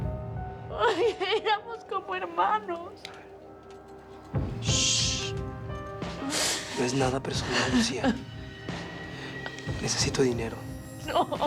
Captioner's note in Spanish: Sollozos